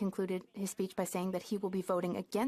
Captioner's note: speaking French